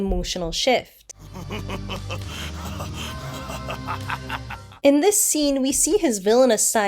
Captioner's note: Vegeta laughs maniacally